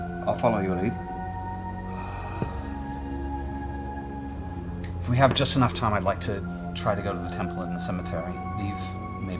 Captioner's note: sighs